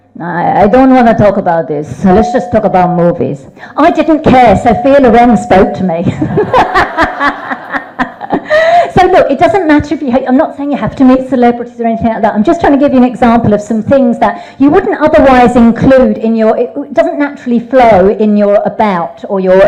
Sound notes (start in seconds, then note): 6.1 laughs; 6.2 audience laughing